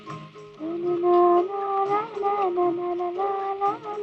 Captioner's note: humming